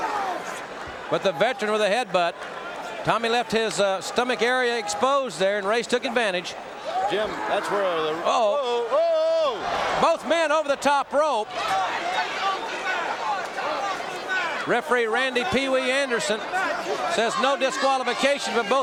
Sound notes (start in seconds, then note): 11.8 audience cheering